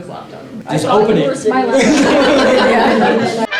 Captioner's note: laughter